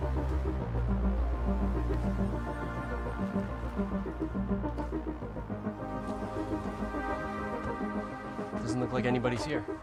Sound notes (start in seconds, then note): 0.0 dreamy electronic music; 1.9 footsteps